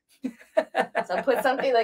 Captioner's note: laughs